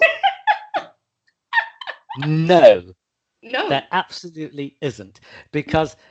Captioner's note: laughter